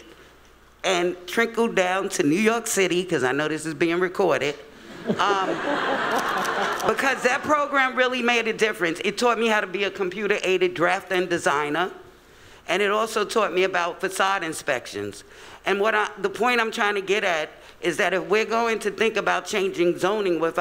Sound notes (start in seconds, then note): 4.9 laughing